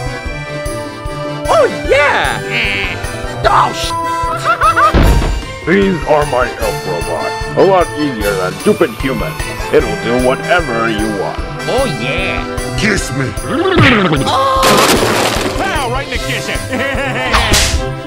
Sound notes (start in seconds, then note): 2.8 angry Waa; 16.2 Peter Griffin Laugh